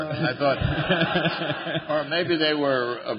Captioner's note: laughter